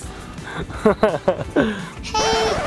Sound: laughing

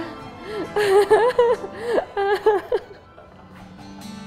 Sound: resigned laughter

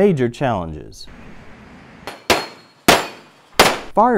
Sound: gunshots

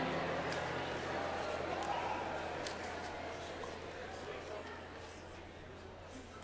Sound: congregation chattering in the background

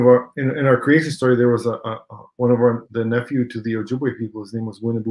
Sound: speaking Ojibwe

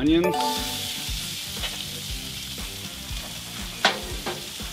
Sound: pan simmering

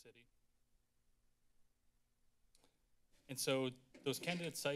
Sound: silence

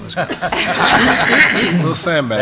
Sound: laughter

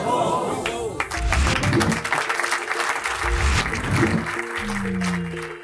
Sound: audience applauding

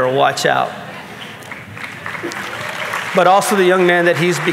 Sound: audience clapping

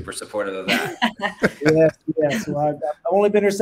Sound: all laughing

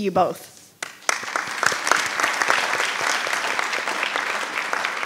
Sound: audience applauding

